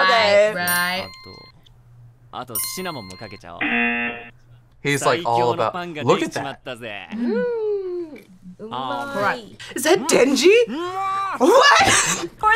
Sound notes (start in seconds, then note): 1.0 bell dings; 3.6 error buzzer